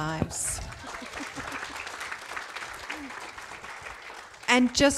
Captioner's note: audience applauds